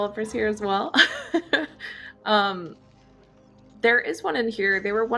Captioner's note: laughs